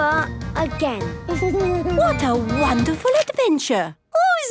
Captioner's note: Danny giggles